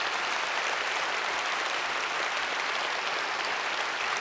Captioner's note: audience applauds